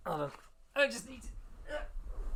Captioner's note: strained